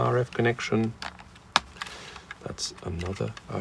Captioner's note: plastic clicking